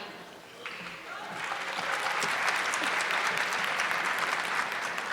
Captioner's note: audience clapping